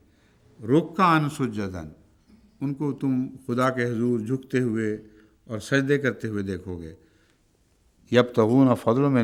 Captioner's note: Arabic